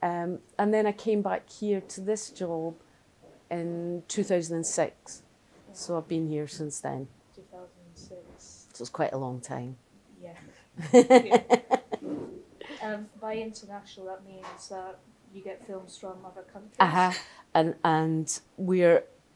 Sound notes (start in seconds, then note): 10.7 laughter